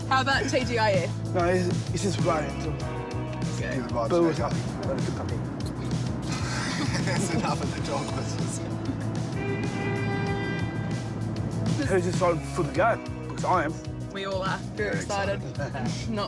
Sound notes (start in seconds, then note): 6.2 laughs; 9.3 horn honks